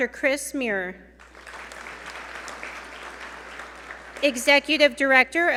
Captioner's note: audience applaud